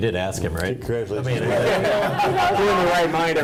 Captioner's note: laughing